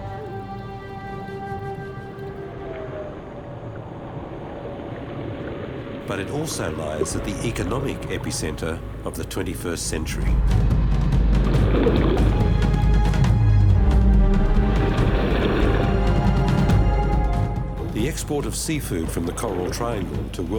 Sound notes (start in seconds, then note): 14.4 tense music; 14.4 water flapping